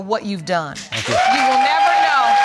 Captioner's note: audience cheering